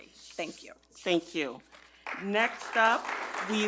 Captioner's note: attendees clap